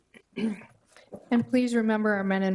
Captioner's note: throat clearing